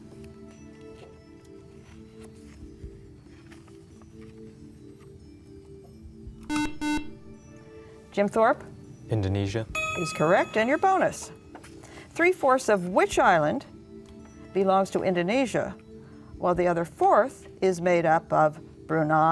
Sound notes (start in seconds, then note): 6.4 buzzer